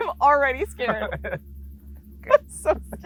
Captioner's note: both laughing